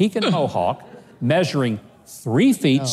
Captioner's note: audience mumbles